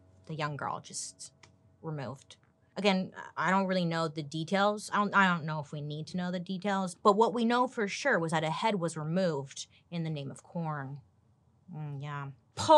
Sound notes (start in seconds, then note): none